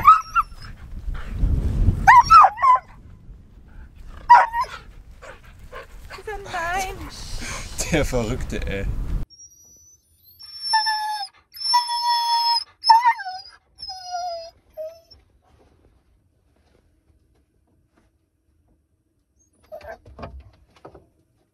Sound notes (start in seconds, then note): 0.1 Caesar is howling; 9.5 Caesar is howling and whimpering